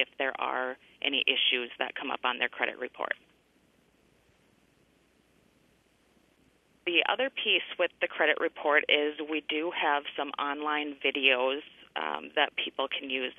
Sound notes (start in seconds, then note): 3.2 pause